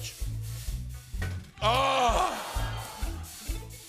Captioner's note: audience ohs